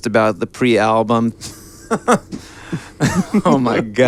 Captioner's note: laughing